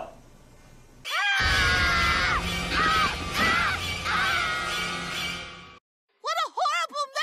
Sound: everyone screaming

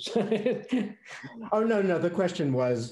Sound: laughing

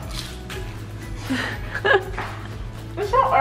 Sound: giggles

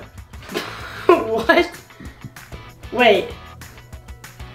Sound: laughs

